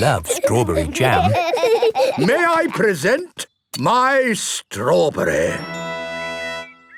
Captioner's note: laughing